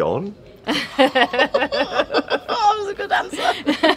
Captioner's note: laughing